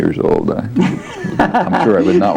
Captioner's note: laughs